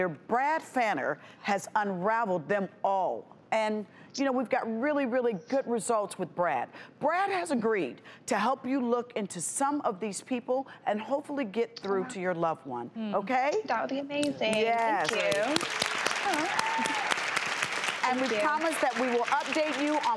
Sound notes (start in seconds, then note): 14.9 audience applauding